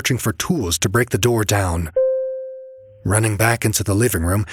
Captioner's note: ding